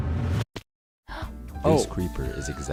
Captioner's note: gasps